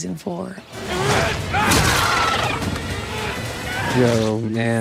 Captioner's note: Steve yelling